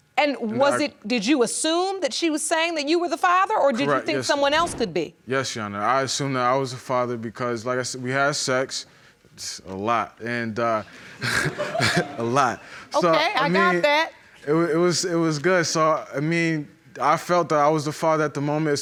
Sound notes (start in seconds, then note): 11.0 chuckling; 11.0 audience giggling